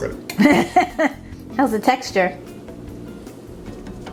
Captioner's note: laughing